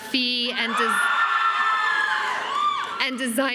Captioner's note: crowd cheering